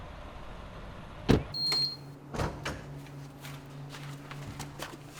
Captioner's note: lock beeps